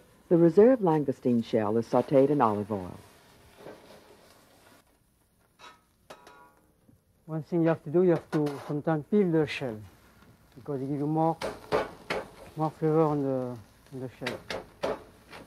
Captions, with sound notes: - [Voiceover] The reserved langoustine shell is sauteed in olive oil. (pan sizzling) - One thing you have to do you have to sometimes peel those shells. Because you don't want the shell.